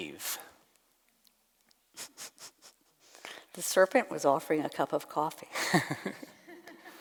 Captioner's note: laughs